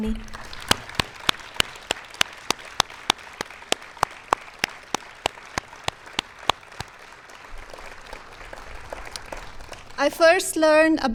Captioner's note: applause